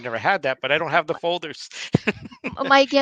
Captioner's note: chuckling